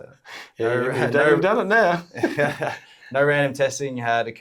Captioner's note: laughs